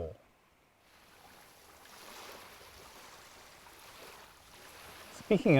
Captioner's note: waves crashing